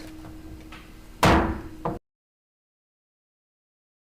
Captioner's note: gavel hit